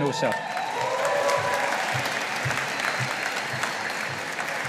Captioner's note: audience applauding